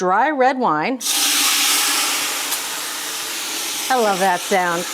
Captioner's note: wine hissing